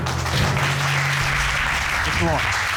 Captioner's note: audience applauding